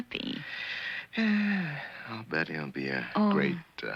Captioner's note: sighs